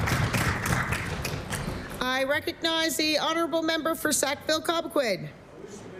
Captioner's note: applause